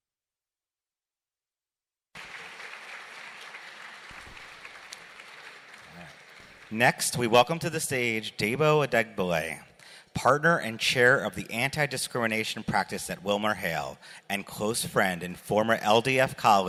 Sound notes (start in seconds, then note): 2.1 applause